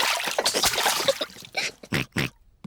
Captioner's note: oinks